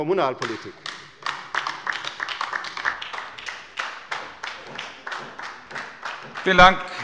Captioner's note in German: Beifall bei der LINKEN